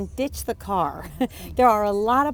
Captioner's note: chuckles